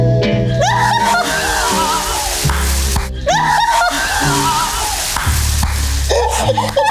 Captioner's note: water splashes; crew laughs